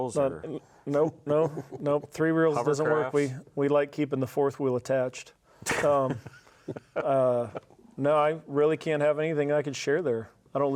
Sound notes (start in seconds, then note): 5.7 laughs